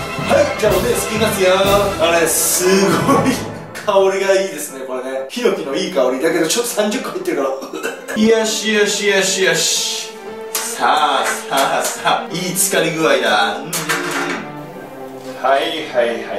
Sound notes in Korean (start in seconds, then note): 7.1 콜록